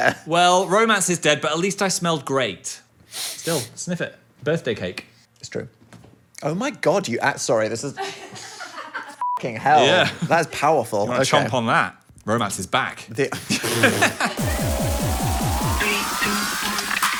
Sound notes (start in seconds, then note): 9.2 beep; 14.3 upbeat music